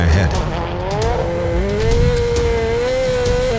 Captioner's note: car engine revving; dramatic music